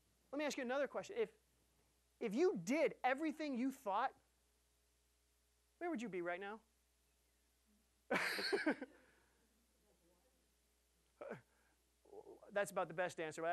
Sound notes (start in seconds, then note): 8.1 laughing